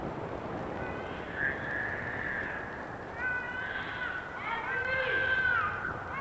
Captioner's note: hollers